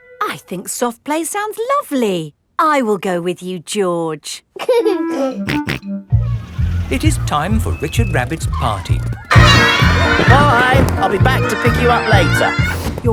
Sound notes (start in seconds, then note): 4.8 giggling and snorting